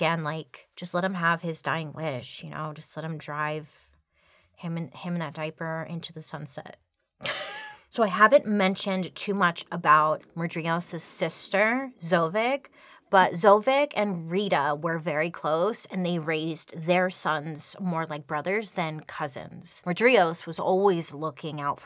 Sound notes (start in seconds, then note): 7.6 laughing